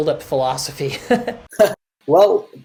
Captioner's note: laughter